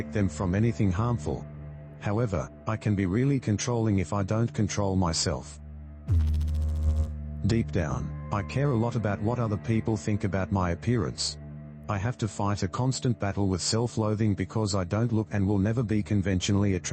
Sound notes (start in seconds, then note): 6.1 electrical noise